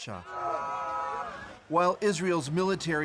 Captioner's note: speaking alternate language